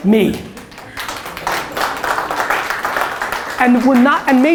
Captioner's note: applause